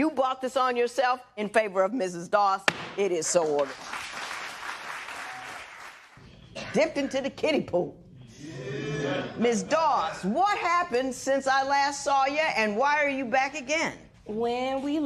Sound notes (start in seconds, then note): 3.4 applause; 8.5 spectators murmur